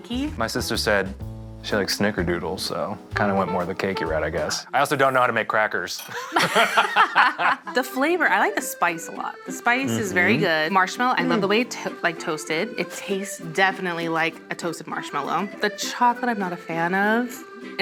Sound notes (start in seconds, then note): 6.0 all laughing